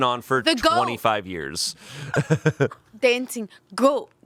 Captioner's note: laughing